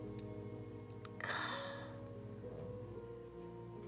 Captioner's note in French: soupire